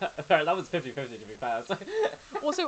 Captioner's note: laughs